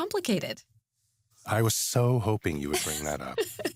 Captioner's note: chuckles